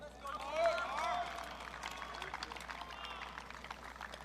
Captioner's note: audience cheering